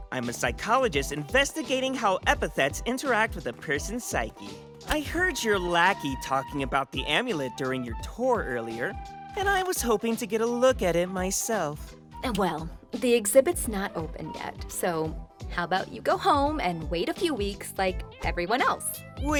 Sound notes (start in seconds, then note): none